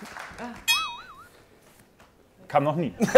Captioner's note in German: Boing-Geräusch